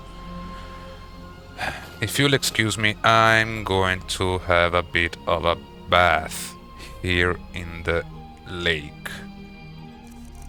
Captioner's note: sigh